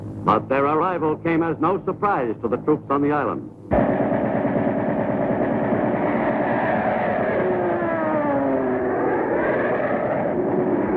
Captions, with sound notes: But their arrival came as no surprise to the troops on the island. (airplane engine roaring)